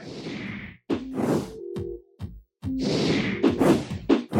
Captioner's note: wooshing; mellow music